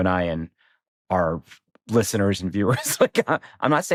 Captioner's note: chuckles